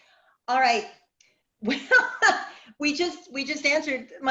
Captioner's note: laughs